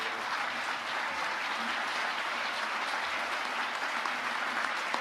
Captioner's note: audience applauding